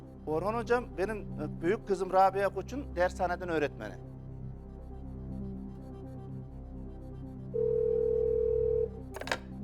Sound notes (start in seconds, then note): 7.6 phone ringing